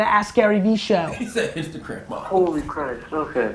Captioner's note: laughs